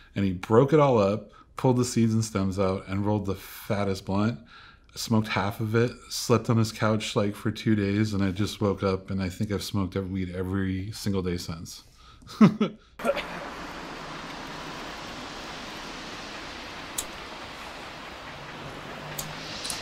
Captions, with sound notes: and he broke it all up, pull the seeds and stems out, and rolled the fattest blunt, I smoked half of it, slept on his couch like for two days, and I just woke up, and I think I've smoked weed every single day since (laughs). (boy coughs) (wind whooshing) (lighter flicks)